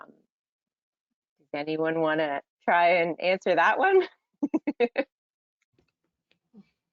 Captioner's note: chuckles